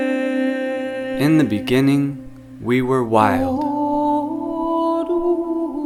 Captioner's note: voiceover